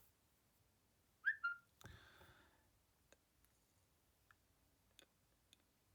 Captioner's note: high-pitched whistling